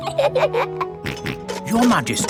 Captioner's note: both giggle; snorts